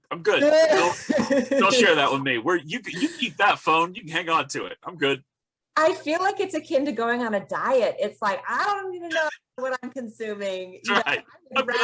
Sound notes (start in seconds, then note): 0.7 they laugh